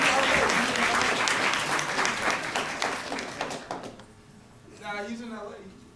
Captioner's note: applause